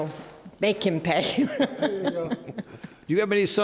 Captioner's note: laughs